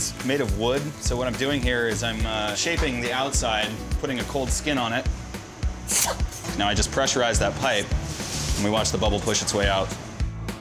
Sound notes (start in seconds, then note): 5.8 blows